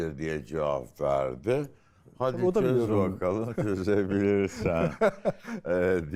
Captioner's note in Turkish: kahkaha